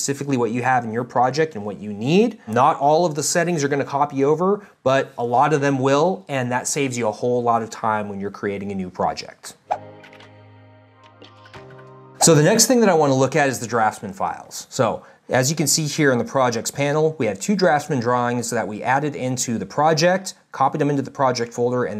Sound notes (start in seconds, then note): 9.3 text whooshing in; 9.6 slow electronic music